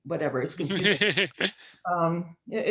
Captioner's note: laughs